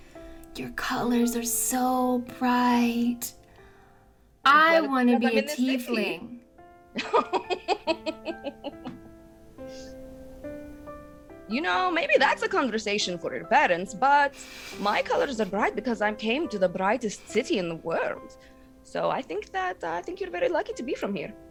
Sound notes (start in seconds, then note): 7.0 laughs